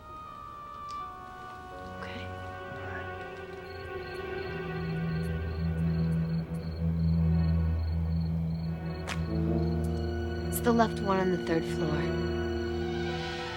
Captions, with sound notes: (eerie music) - Okay. - All right. (insects chirring) - It's the left one on the thir.